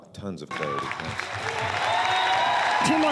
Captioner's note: applause